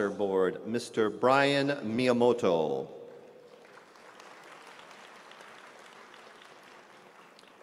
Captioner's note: applause